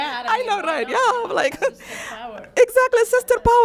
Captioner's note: laughs